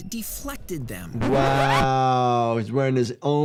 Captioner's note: record scratches